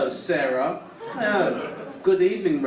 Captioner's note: audience laugh